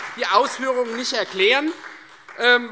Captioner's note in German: Beifall Freie Demokraten